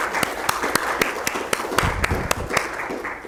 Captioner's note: applause